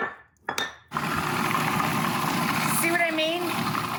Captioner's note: processor blends